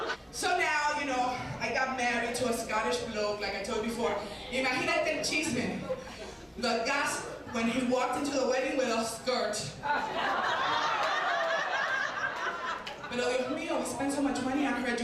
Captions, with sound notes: So now, you know, I got married to a Scottish bloke, like I told you before. (speaking Spanish) When he walked into the wedding with a skirt. (audience laughing) (speaking Spanish) We spent so much money on her education